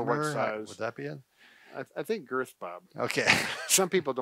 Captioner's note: laughs